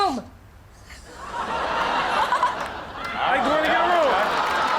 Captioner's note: audience laughs